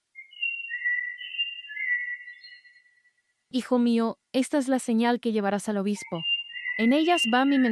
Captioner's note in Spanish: Voz - Virgen María